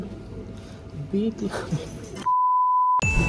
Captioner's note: laughs